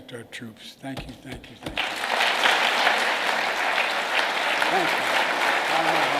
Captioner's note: applause